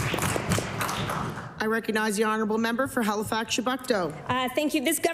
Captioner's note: applause